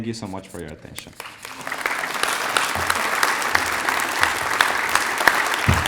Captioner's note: applause